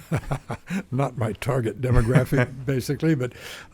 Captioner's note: laughing